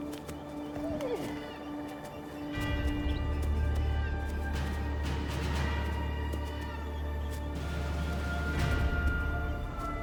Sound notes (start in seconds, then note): none